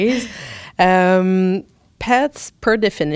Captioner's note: laughter